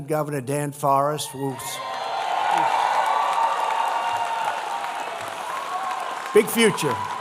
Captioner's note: applause